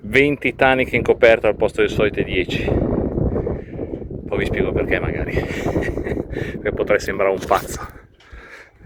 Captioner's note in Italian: risate